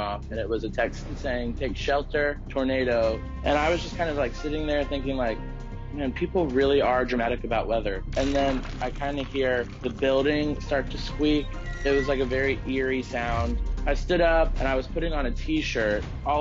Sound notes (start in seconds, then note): 8.0 crackling sound; 11.3 gate squeak sound plays